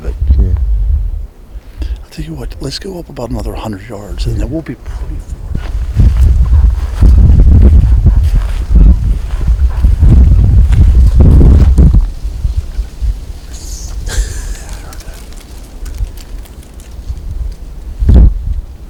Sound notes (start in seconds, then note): 6.4 wind billowing; 13.9 laughing